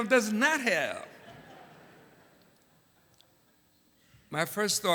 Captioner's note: laughter